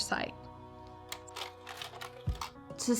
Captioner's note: project click